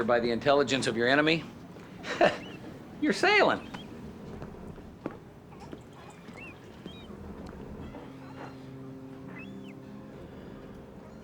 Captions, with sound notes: If you can judge danger by the intelligence of your enemy... (chuckles) you're sailing.